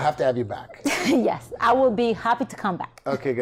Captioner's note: laughs